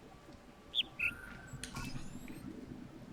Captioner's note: bird chirps ˥ ˩